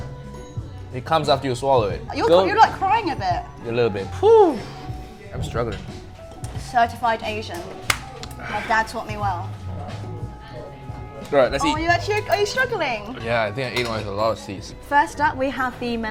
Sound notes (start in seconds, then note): 7.8 claps